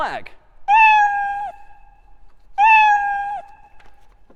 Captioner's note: meowing